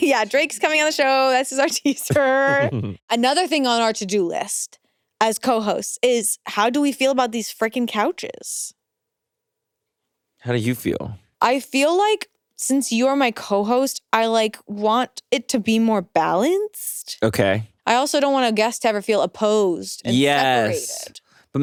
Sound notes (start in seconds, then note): 2.0 chuckles